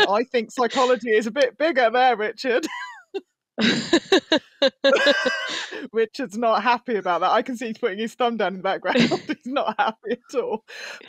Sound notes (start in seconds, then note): 3.6 laughter